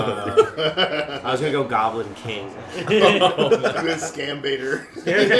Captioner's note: laughter